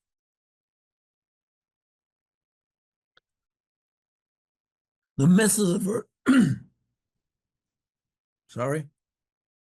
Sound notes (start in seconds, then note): 6.2 clears throat